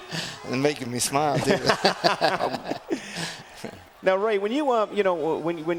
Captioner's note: laugh